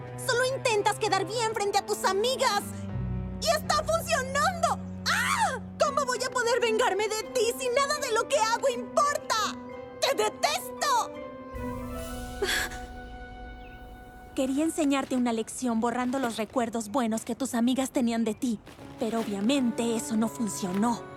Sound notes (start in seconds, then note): 12.4 gasp